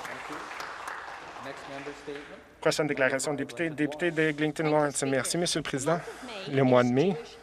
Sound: some Applause

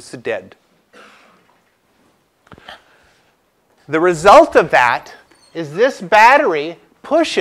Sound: cough

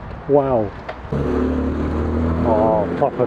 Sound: engine revs

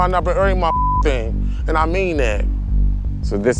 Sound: beep

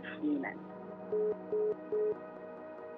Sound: phone beeps

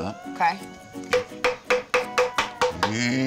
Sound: hammering

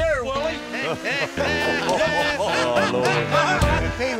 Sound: laughter

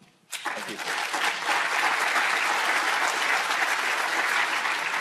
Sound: audience applauding

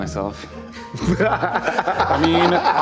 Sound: laughing

